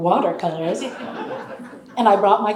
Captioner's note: audience laughing